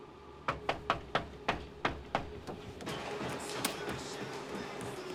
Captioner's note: knocks